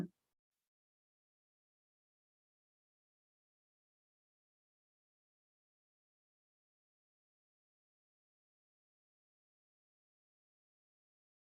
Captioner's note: silence